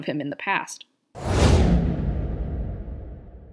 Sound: dramatic whooshing

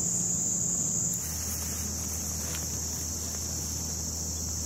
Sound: bugs chirping

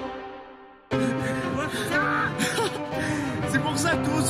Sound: cries of pain

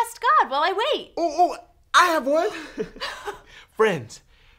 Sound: giggles

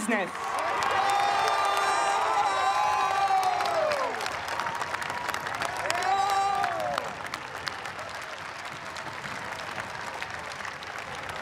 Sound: cheers and applause

